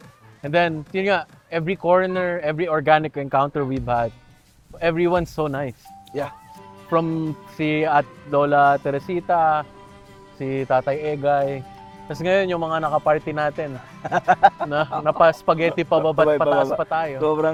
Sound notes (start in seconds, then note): 13.7 laughs